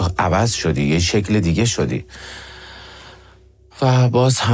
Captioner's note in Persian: صدای بند آمدن نفس